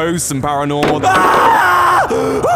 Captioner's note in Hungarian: Sikoly